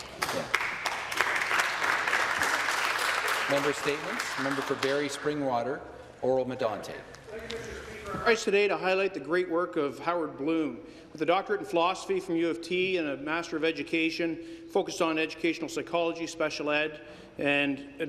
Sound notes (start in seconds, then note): 5.6 some Applause